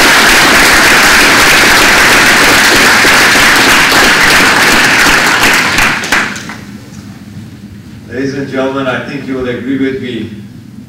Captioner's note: applause